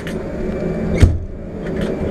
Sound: door closes

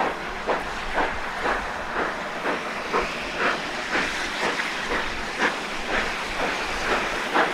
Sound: steady locomotive chugging; rotary safety valves hissing

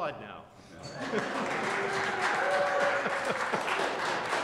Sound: applause

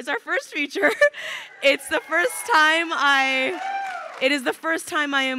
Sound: crowd cheering

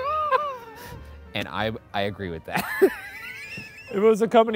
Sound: laughing; laughs

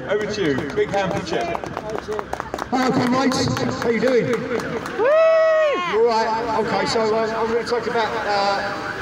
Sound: applause; whooping

